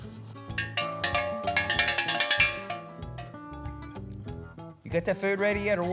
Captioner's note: bell ringing